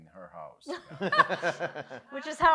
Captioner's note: panelists laughing